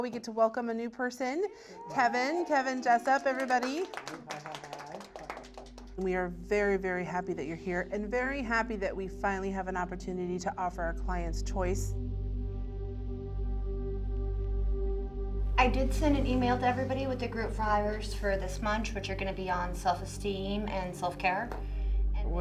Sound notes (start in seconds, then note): 4.1 colleagues clapping